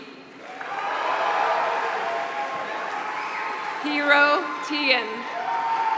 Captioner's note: applause